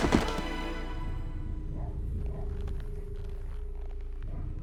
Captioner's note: dog barking in the distance